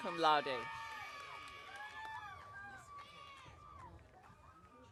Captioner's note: audience cheering